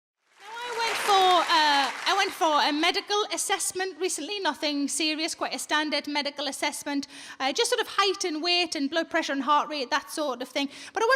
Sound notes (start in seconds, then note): 0.2 audience applauding